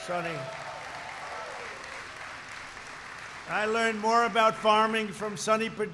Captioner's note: applause